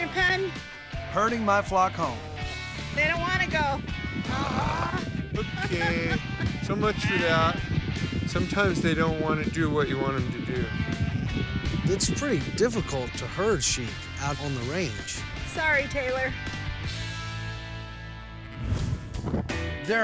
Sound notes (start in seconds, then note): 4.2 laughing